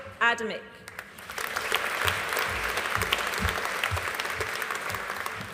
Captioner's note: audience applauding